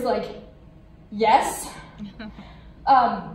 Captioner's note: laughs